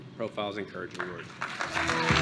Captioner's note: applause